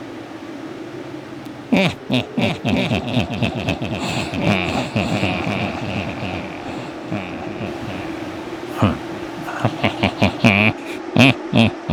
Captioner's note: evil laugh